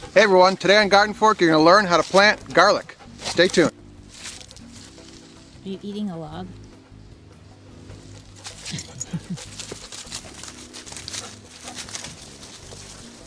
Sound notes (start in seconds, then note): 8.4 laughs; 10.1 mellow jazz music